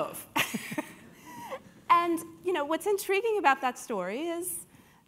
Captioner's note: laugh